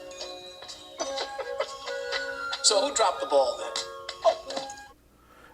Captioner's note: chuckling